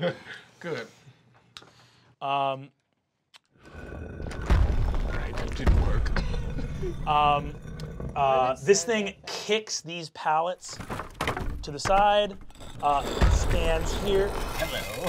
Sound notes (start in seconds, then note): 0.6 chuckles; 3.7 stone scraping; 3.7 footsteps booming